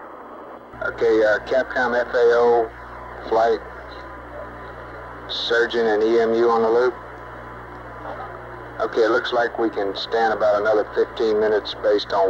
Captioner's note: mission Control Audio